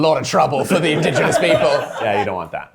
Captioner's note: all laughing